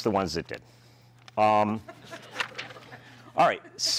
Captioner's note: laughter